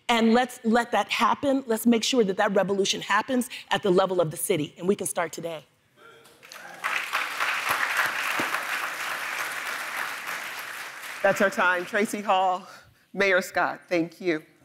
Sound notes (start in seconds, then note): 6.3 audience applauds